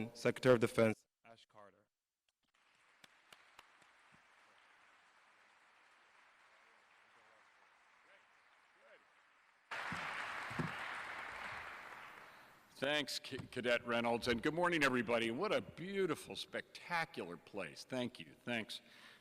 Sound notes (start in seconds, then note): 2.9 audience applauding